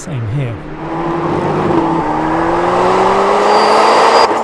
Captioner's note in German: Motorbrummen